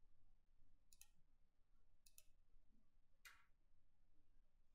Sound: mouse clicking

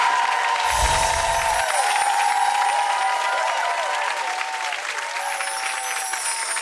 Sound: cheering; sparkling; whooshing

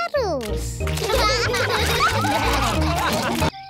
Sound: all laugh

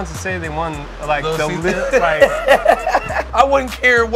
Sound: laughs

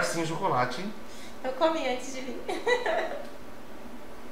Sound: laughs

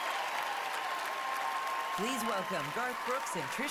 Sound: cheering, applause

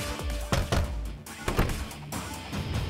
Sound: door knocking; door opens

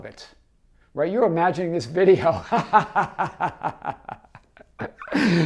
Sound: laughs

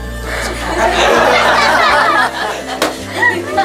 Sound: everybody laughing

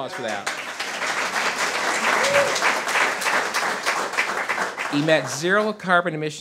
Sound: audience cheers and applause

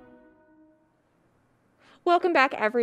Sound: none

